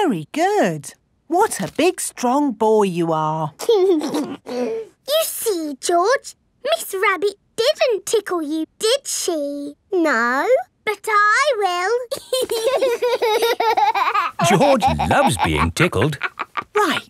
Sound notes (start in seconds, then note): 3.6 giggles; 12.1 laughing